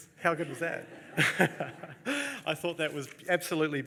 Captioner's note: laughs